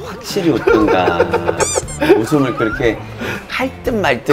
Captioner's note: laughter